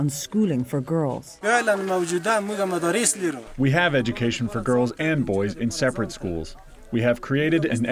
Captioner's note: through translator